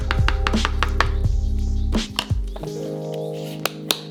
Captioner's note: tapping